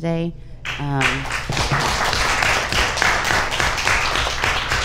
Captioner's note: audience applauds